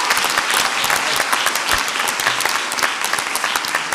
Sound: audience applauds

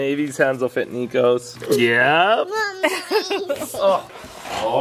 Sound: laughs

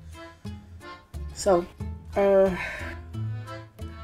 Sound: sigh again

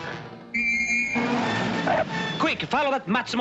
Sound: blows whistle; tires screech

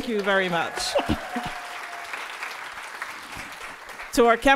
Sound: audience applauding

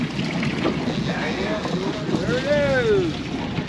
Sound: water lapping

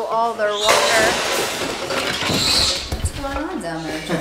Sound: loud crash

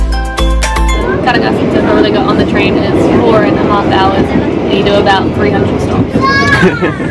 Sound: laughs

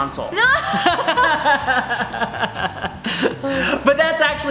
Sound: laughs

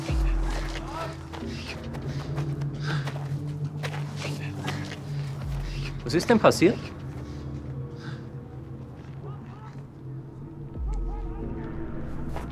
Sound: speaks in foreign language

